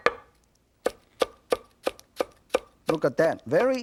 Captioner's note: knife chopping